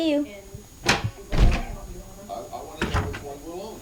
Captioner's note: door opens and shuts